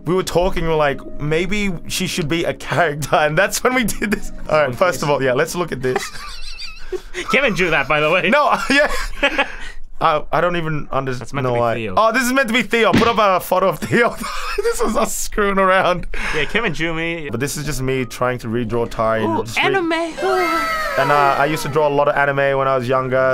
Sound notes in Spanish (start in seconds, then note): 9.6 risas